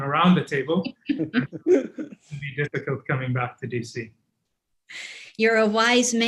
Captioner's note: laughter